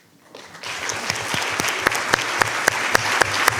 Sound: audience applauds

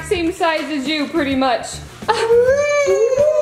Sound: laughs

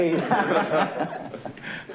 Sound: laughter

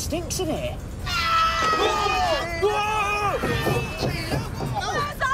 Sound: screaming

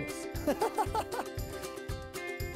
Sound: laughs

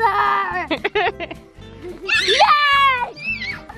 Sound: laughs; child screeching

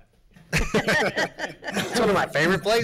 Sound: laughing

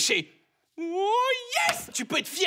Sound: false cry of joy

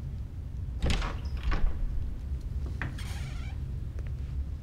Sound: door opens

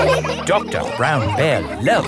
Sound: all laughing

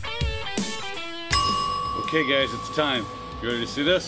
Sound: timer chiming

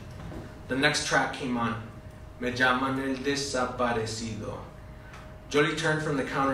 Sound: spanish

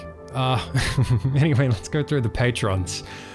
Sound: laughing

